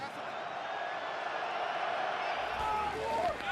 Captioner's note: cheers